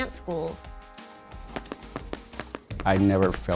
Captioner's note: sound of folklorico footwork